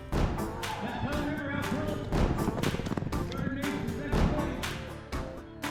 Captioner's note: sound of hooves on dirt